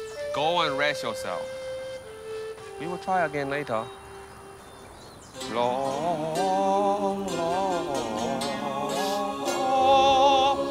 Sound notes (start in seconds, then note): 9.0 sniffles